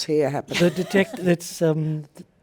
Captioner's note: laughs